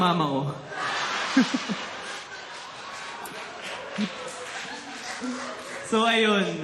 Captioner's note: laughter